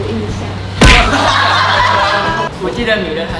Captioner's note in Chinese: 哄堂大笑